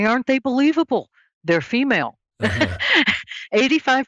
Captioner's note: laughs